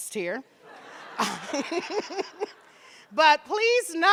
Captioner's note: audience laughing; laughing